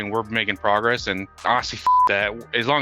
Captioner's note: beep